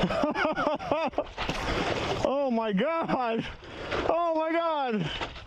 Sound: laughter

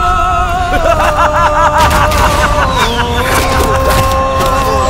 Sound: laughing

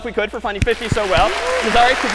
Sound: applause

